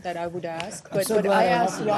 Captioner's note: laughter